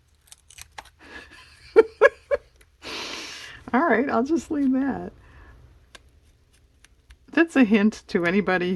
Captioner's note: laughs